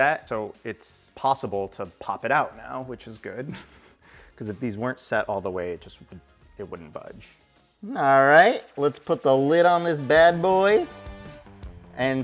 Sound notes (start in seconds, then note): 3.4 giggling; 10.8 exciting upbeat music